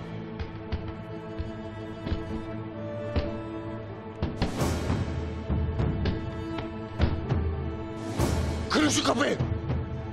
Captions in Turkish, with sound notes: (Kapı vurma sesi) (Müzik - Gerilim) Kırın şu kapıyı!